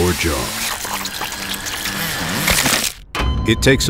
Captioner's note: saw noises